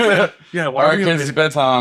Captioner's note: laughing